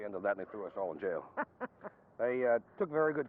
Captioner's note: laughing